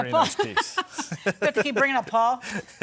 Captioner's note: both chuckling